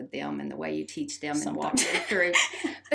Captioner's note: laughs